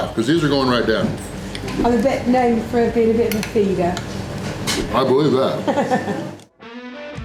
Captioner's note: laughter